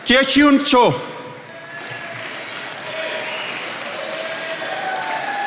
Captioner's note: attendees applauding